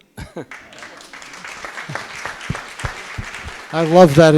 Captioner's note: audience clapping